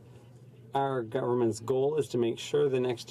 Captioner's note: speaking French